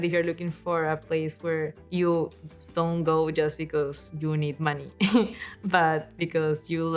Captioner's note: chuckles